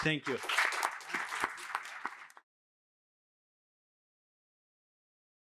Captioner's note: applause